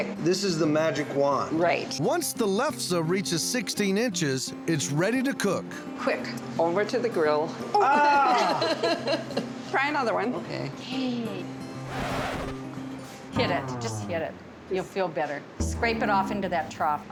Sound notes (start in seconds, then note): 8.5 laughs; 11.8 record scratching sound